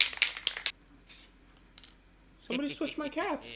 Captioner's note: spraying